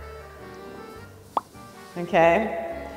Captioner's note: bubble popping